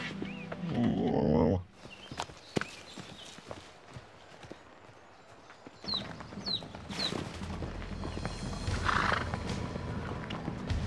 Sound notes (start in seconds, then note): 0.8 Elvar groans; 2.5 birds chirp; 7.4 dramatic music